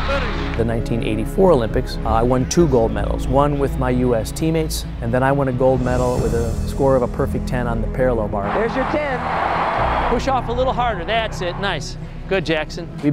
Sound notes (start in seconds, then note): 8.4 crowd cheers